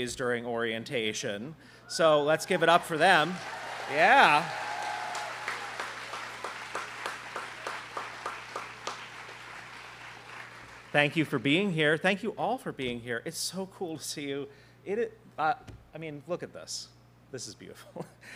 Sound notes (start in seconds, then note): 4.2 students clapping